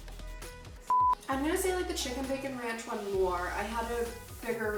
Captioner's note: beep